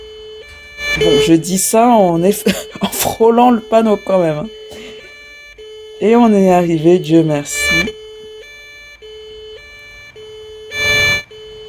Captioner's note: laughs